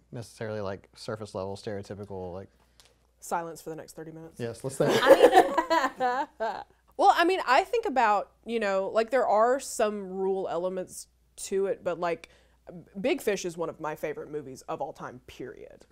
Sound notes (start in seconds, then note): 4.8 group laughs